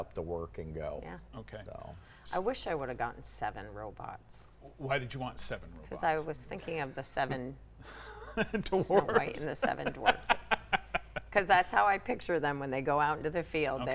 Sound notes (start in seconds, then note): 7.9 laughs; 10.7 laughing